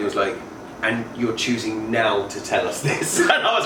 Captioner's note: laughs